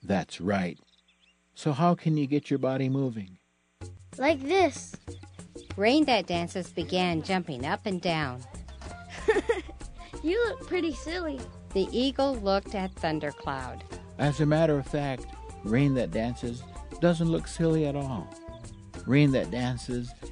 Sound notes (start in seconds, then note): 9.0 laughs